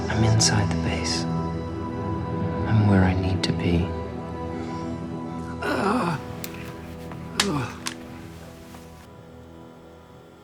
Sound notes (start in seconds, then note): 5.6 groaning